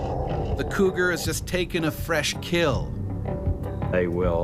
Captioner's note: voiceover